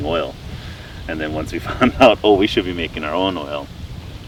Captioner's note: laughs